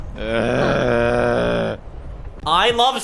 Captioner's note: cringe groaning